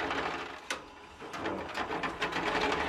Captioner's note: rattling